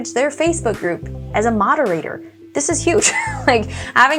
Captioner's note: laughs